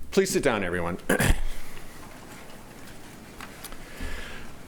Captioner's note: throat clearing